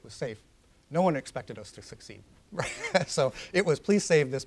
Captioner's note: laughs